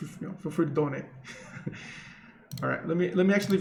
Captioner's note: chuckles